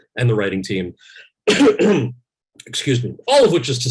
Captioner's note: Kal coughs